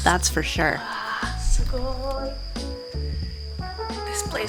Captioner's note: speaks foreign language